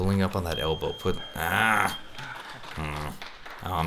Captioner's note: beep